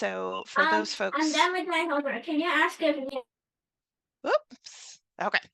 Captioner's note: background chatter